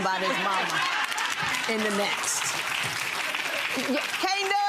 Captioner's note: clapping